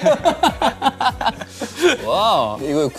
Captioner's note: haha